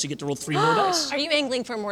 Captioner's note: gasps